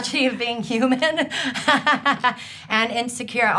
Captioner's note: laughing